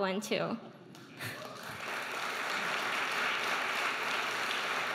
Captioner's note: audience applauding